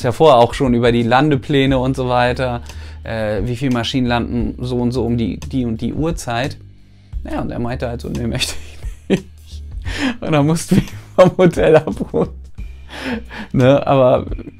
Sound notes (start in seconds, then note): 9.8 laughs